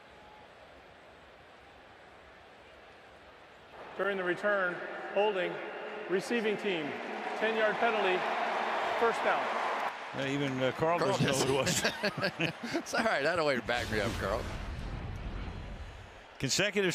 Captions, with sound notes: During the return, holding, receiving team. 10-yard penalty. First down. Well, even Carl doesn't know who it was. Carl doesn't know. [laughter] It's all right. That a way to back me up, Carl.